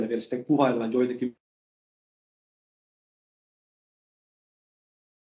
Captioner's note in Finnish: Ääni ei kuulu